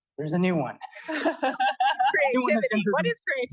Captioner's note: laughter